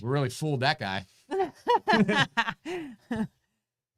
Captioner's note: both laugh